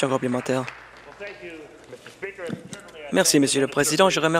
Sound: applause

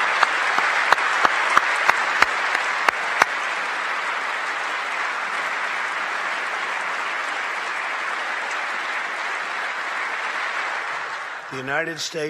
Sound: applause

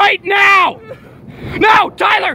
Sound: crying

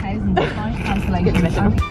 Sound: snicker

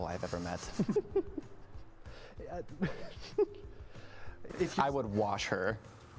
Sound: laughs

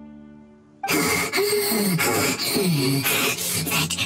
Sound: panting

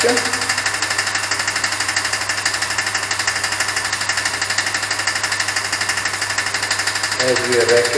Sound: pump making a clacking noise

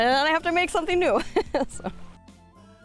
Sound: laughter

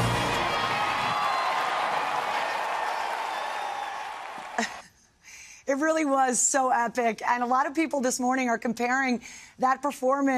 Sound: cheers and applause

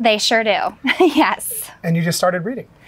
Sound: laughing

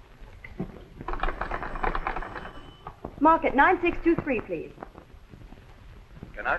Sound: telephone rattles

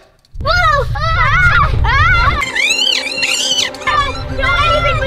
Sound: screaming

